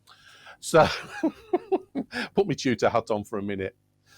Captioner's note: laughs